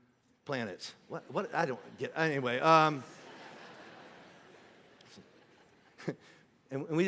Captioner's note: congregation laughing